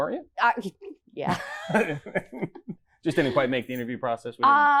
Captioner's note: laughs